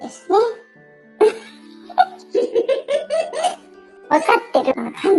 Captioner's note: laughs